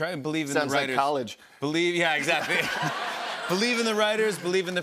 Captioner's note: laughter